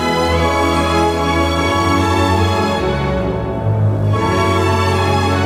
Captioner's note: some Applause